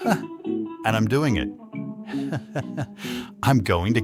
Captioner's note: chuckles